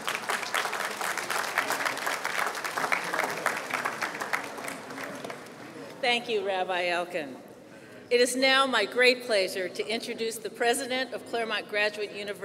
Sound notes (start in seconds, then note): 2.9 applause